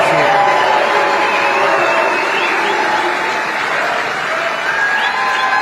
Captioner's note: applause